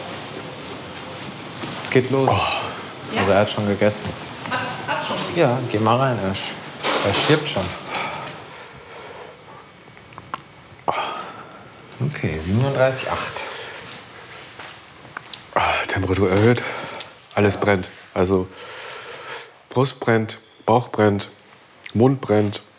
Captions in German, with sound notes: Es geht los. (Stöhnen) Er hat es schon gegessen. - Hat schon gegessen? Ja, geh mal rein, er stirbt schon. (Leises Stöhnen) Okay, 37,8. Temperatur erhöht. Alles brennt. Also ... Brust brennt, Bauch brennt, Mund brennt.